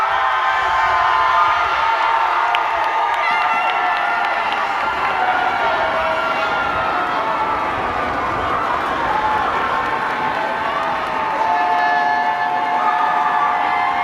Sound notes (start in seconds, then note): 2.6 cheers and applause